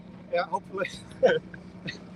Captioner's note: laughter